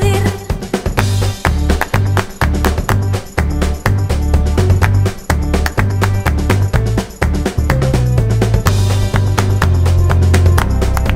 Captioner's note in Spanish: aplausos